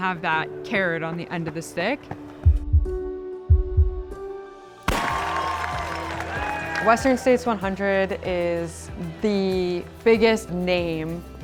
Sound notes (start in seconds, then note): 2.6 ambient music; 4.8 crowd cheering